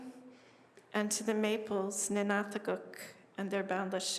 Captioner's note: non-english speech